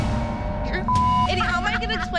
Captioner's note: beep